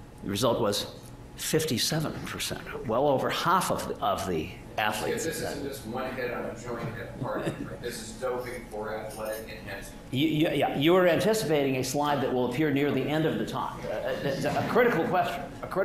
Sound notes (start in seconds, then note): 5.0 background mumbling